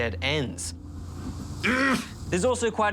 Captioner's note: growls in frustration